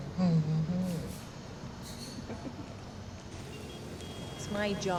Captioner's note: giggles